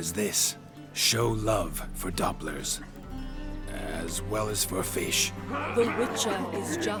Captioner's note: faltering